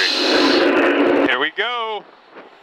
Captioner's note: U-2 roaring